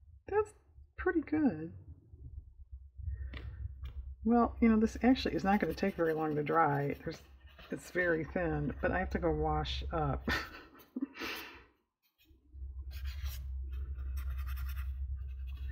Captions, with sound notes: that's pretty good well you know this actually is not going to take very long to dry there's, it's very thin but i have to go wash up (laughs)